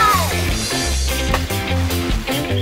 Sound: splash

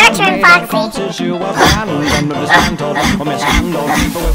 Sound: breathing heavy

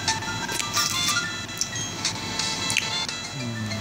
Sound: sticky lips sound

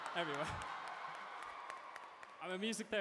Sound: cheering

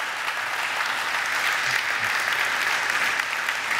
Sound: audience applaud

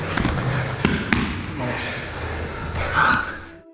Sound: hand patting mat; warm music

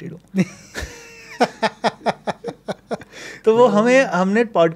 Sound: both laughing

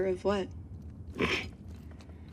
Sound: snorts

